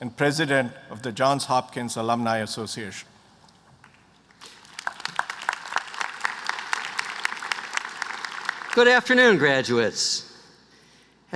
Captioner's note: applause